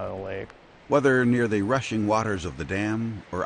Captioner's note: voiceover